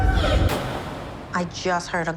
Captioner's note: yelling; gunshot